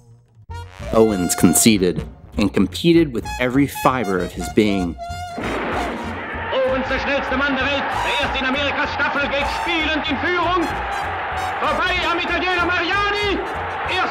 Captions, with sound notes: Owens conceited and competed with every fiber of his being. (race gun blasts) (man speaking in foreign language)